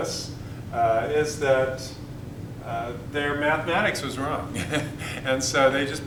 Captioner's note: chuckle